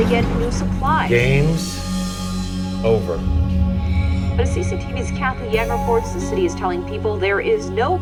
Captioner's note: voiceover